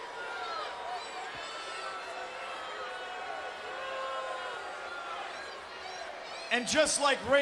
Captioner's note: applause